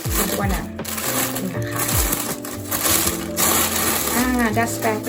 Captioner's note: paper noise